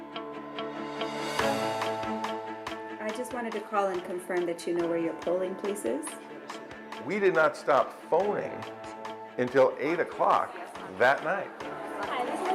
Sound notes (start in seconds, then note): 3.5 voiceover; 7.5 voiceover